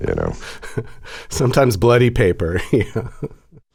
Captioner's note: laughter